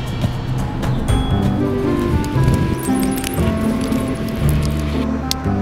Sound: peaceful music; birds chriping

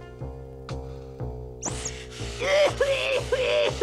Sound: coughing

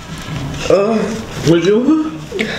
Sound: confusedly

